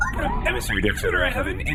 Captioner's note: incoming-transmission noise